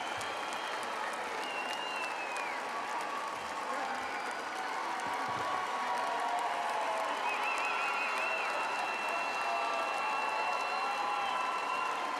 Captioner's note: applause